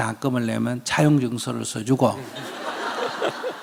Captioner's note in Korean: 청중과 질문자 웃음